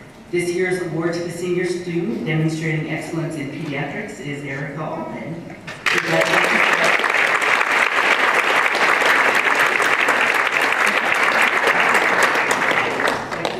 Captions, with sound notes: This year's award to the senior student demonstrated excellence in pediatrics is Erika Allred [applause]